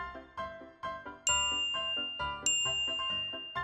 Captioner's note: musical TING! each time the number increases